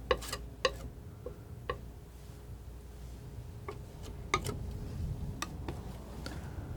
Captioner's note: tapping